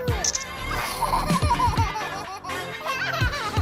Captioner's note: baby laughs